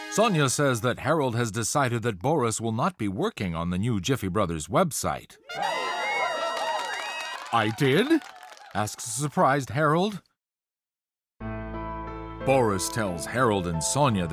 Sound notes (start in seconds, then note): 5.4 trumpets; 5.4 marketing team cheers; 11.4 sombre piano music